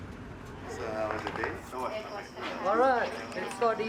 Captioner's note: guests chattering